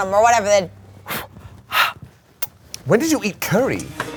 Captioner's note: exhales